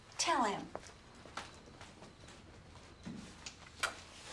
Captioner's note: insects chirping